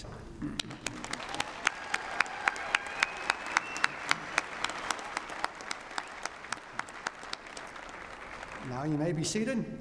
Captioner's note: cheering and applause